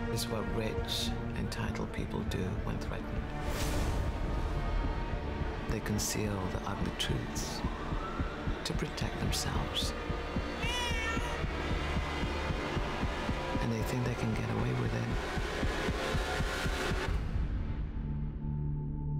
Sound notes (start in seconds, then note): 3.8 thunder rumbles; 10.4 baby cries; 11.5 dramatic music